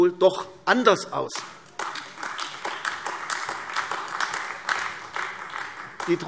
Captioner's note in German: Beifall AfD